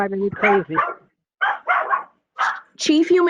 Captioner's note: dog Barking